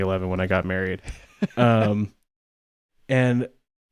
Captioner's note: laughs